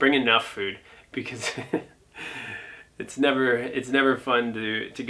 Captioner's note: laughs